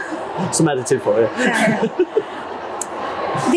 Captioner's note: chuckling